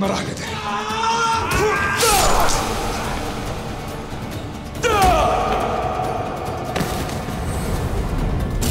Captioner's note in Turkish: Müzik - Hareketli; Dövüş sesleri